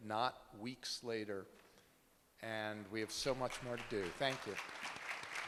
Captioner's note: applause